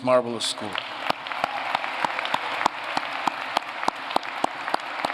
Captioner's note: applause